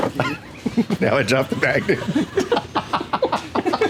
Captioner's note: laughs